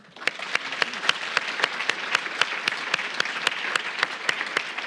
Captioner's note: audience applauding